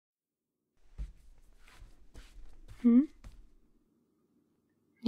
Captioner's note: footsteps